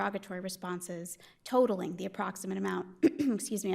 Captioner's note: clears throat